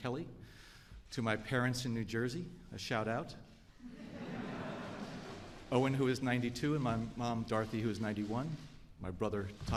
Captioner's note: laughter